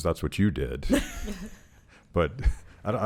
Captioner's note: laughing